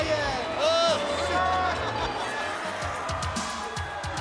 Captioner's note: laughing; energetic music